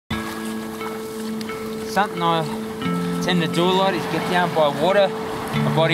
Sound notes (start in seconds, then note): 0.1 emotional music; 0.1 water lapping